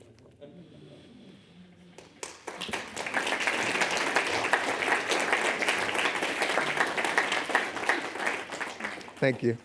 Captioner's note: audience applauding